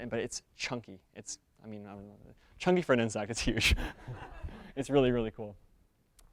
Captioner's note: audience members laugh